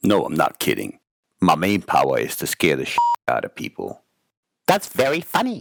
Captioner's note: beeping